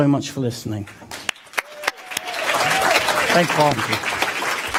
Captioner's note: applause